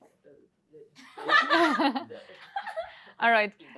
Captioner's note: laughter